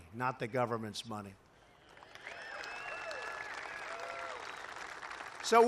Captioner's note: applause